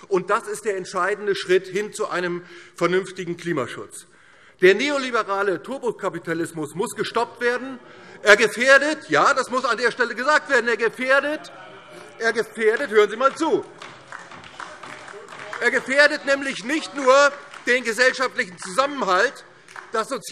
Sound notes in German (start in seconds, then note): 7.5 Zurufe Freie Demokraten: Oh!; 13.7 Beifall DIE LINKE